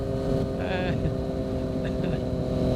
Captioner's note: laughter